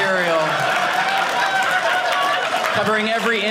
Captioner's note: audience laughing